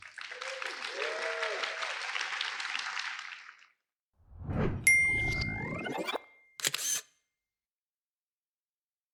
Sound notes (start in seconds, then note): 0.0 applause